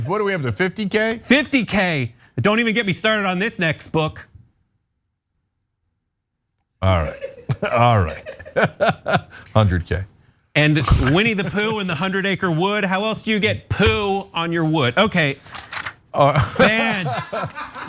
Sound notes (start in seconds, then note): 6.9 laugh; 16.3 laugh